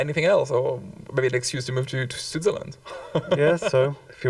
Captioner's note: chuckles